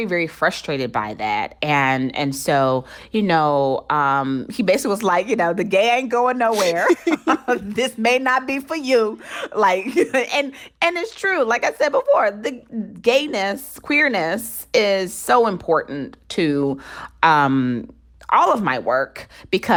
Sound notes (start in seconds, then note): 6.5 laughter